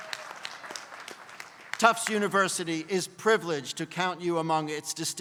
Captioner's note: applause